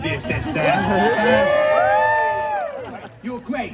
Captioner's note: crowd cheers